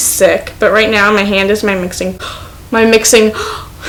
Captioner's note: gasp